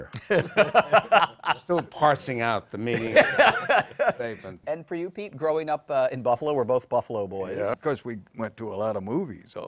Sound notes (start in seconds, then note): 0.1 laughter